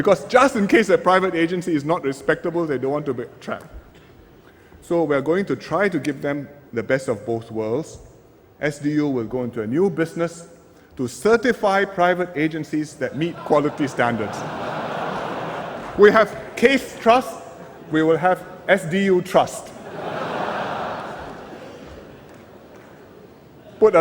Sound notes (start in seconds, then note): 13.2 laughter; 19.7 laughter